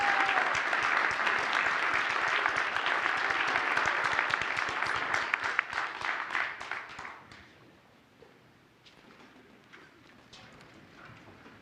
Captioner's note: applause